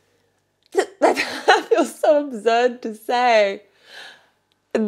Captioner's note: chuckles